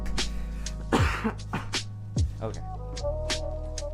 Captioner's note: coughing